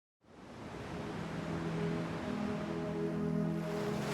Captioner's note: ocean waves roar